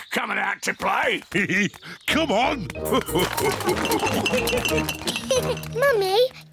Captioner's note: laughs; all laugh; giggles